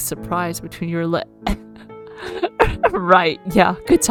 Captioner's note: chokes